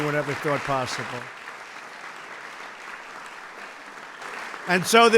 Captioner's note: applause